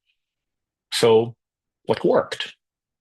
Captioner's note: pause